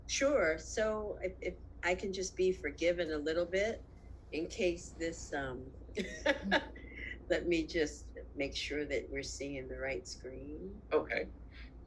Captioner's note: laughs